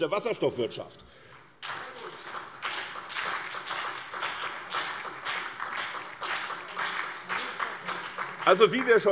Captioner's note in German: Beifall SPD, BÜNDNIS 90/DIE GRÜNEN und DIE LINKE